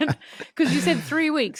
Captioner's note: both laughing